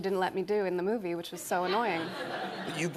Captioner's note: laughter